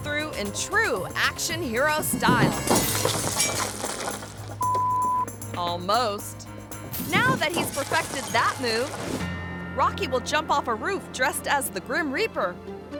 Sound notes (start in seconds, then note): 4.6 beep